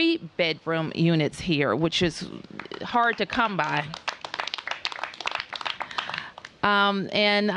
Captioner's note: applause